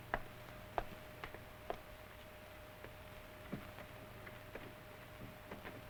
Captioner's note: footsteps approaching